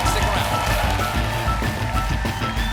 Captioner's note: cheers and applause